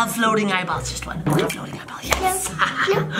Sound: laughs

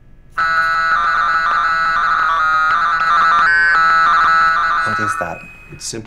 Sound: alarm

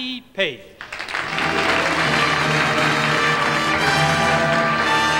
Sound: audience applauding; slow, sentimental music

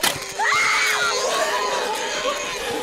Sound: scream; razorback squeals

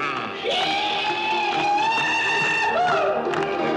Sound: man whooping

